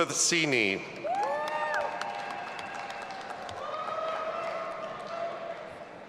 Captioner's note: audience applauding and cheering